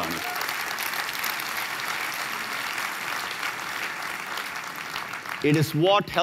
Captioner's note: applause